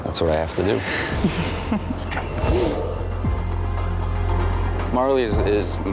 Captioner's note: laughs quietly